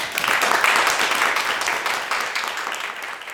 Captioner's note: clapping